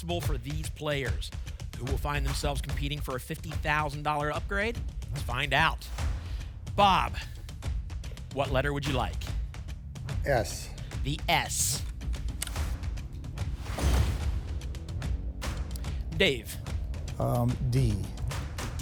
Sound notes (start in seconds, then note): 13.5 whoosh; 13.7 thump